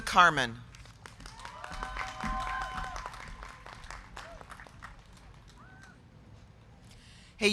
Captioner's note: crowd clapping; crowd cheering